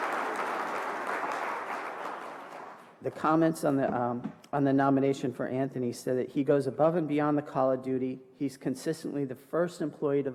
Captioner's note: applause